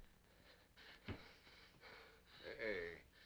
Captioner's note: Cooncat gasping